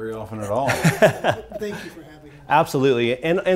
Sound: laughing

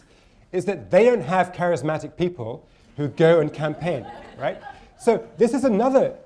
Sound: laughter

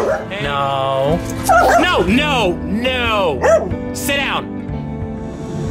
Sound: barking

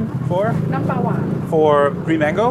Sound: chef speaking foreign language

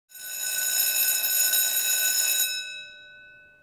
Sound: school bell ringing

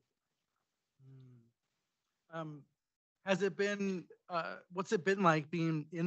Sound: faintly speaking

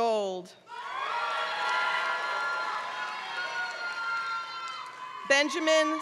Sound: applause

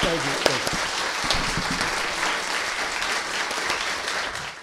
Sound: applause

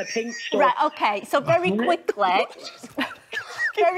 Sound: laughter

